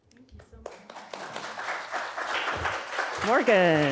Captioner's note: audience applauding